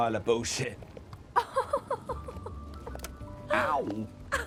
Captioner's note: Eloise laughing; Eloise laughing